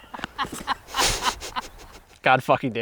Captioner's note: group laughing